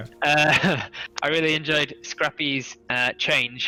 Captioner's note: laughs